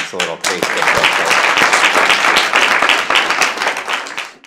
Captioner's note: applause